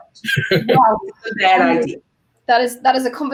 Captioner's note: laughing